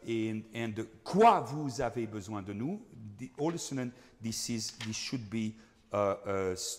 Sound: speaking in foreign language

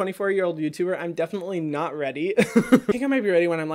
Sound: laughs

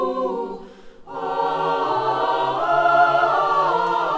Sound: aaaahhing

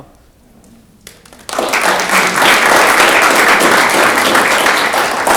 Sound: audience clapping

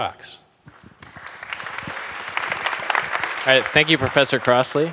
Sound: crowd claps

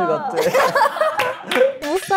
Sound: laughs

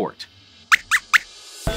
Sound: squeaks squeaks

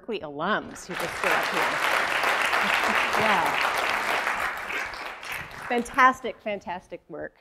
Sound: applause

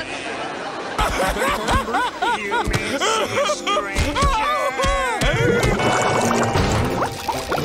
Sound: laughs

